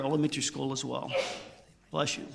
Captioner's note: audience member sneezing